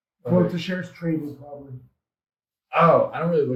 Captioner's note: speaks faintly